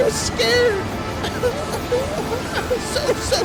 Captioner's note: crying